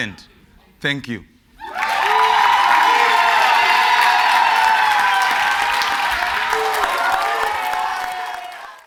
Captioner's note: cheers and Applause